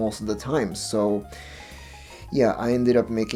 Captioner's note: inhaling